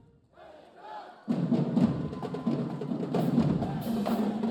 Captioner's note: band cheering